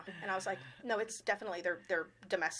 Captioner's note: chuckling